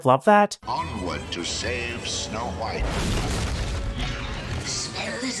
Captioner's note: loud crash